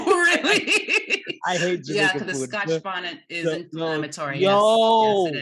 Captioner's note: laugh